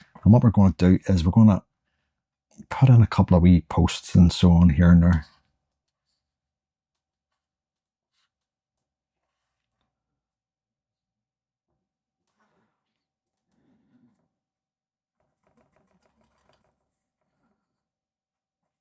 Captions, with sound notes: And what we're going to do is we're going to put in a couple of wee posts and so on here and there. [Silence]